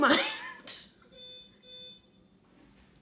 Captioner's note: laughing; doorbell